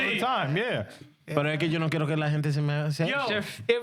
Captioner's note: speaking In Foreign Language